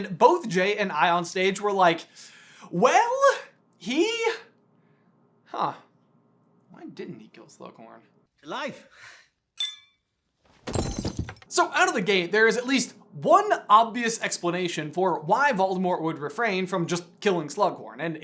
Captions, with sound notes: and both J and I on stage were like, "Well, he... "Hunh." "Why didn't he kill Slughorn?" To life! [clink] [thunk] So, out of the gate, there is at least one obvious explanation for why Voldemort would refrain from just killing Slughorn.